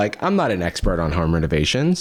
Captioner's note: none